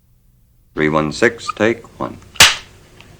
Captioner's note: clap